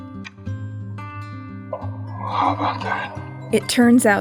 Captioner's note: voice on Radio